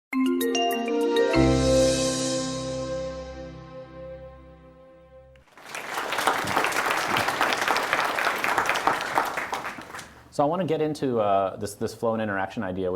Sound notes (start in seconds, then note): 5.4 applause